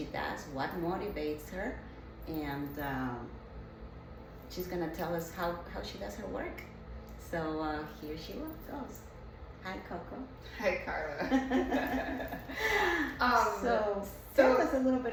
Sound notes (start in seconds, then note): 11.1 giggles